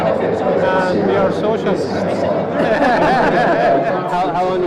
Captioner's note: laughter